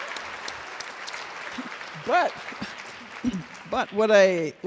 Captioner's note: laughter